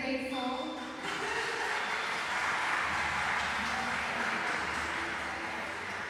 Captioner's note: applause